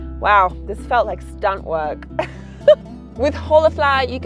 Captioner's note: laughs